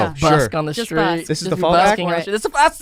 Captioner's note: overlapping chatter